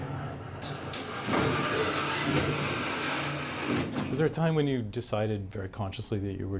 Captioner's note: mechanical sounds